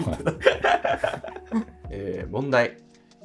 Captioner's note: laughing